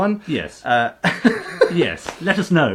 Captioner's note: laughing